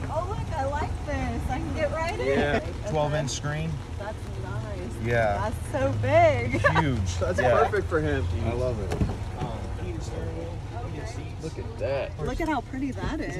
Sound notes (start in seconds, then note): 6.4 laughs